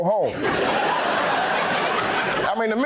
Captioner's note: laughing